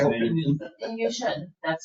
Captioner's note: people chattering